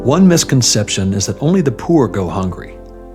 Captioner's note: voice-over